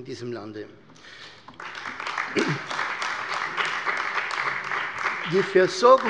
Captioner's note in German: Beifall bei der CDU und dem BÜNDNIS 90/DIE GRÜNEN